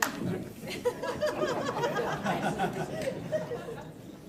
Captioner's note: audience laughs